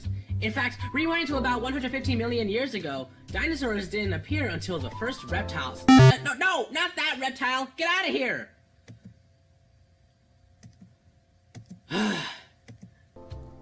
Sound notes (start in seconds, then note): 11.9 sigh